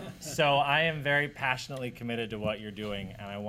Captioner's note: laughter